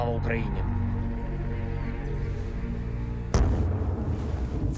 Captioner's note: birds twitter; cannon booms